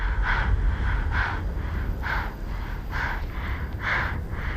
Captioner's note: breathes heavily